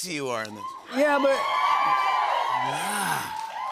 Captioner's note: cheering